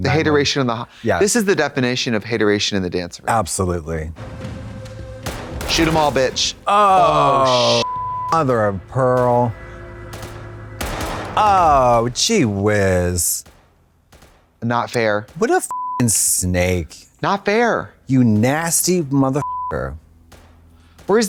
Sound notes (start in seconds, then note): 7.8 beep; 9.0 guns firing; 15.7 beep; 19.4 beep